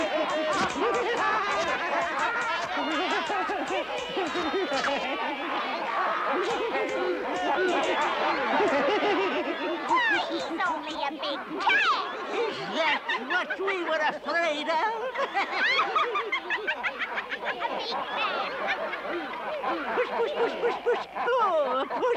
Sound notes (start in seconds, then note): 0.2 laughter and happy chatter; 14.6 laughter